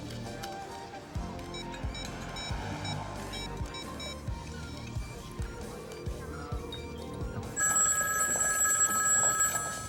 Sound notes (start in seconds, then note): 1.6 phone dialing; 7.5 phone ringing